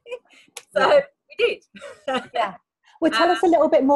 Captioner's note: laughs